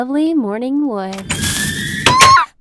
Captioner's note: scary creeper noise